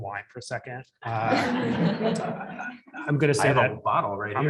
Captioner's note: audience laughs